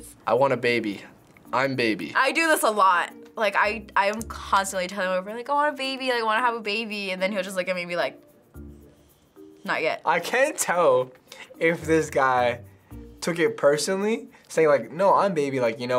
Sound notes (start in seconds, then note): none